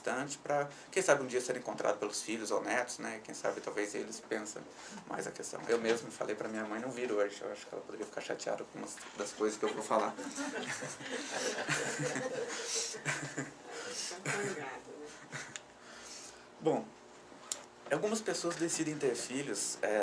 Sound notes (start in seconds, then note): 9.6 laughs